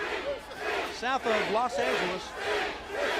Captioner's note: crowd cheering